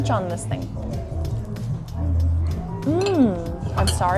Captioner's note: food crunching